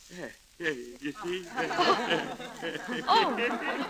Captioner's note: laughter